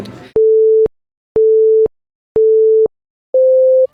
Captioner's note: beeping